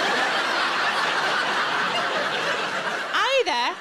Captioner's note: audience laughing